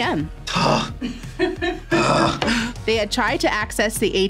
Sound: laughs

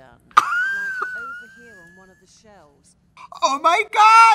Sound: both laugh

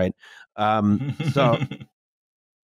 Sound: chuckles

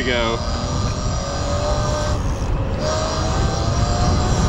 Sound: bike motor revving

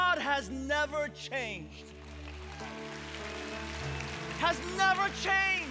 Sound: congregation clapping

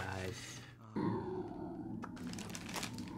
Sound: stomach growls

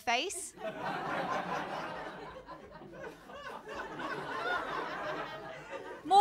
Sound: laughter

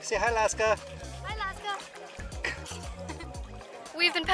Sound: laughs

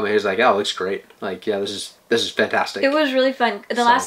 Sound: none

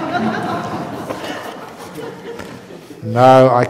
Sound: laughter

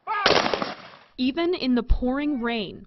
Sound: gun shot

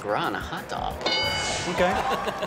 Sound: bell rings

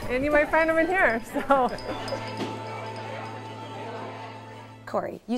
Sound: laughing

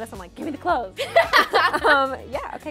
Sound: laughs

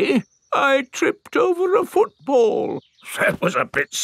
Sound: in normal voice; in teddy's voice; in normal voice

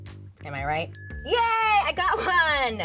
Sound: bell dinging

